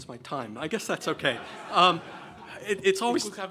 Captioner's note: laughing